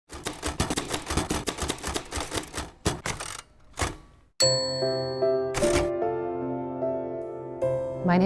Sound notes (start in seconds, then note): 0.1 typewriter typing; 4.4 soft piano music